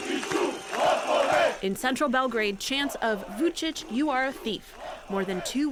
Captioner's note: voice-over